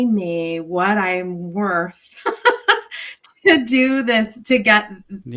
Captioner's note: laughs